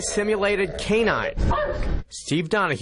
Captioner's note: dog barking